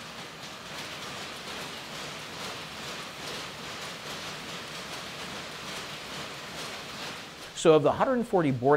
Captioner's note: soft, steady clattering